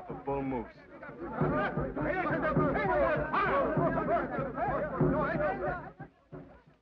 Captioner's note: men shout in foreign language